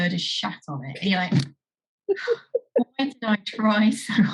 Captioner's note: laughs